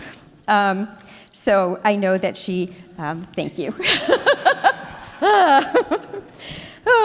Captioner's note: laughing